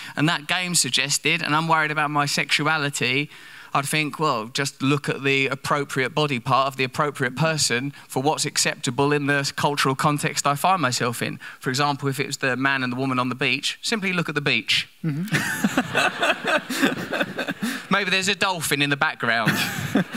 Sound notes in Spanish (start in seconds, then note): 15.1 risas; 15.2 Risa de la audiencia